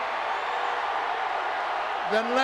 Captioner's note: audience cheering